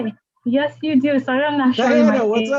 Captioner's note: audio blurs